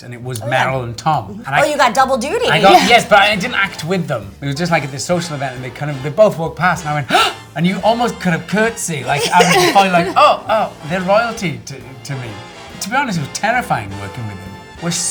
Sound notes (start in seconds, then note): 7.1 Matthew gasps